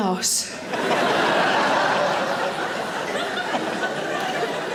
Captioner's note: audience laughing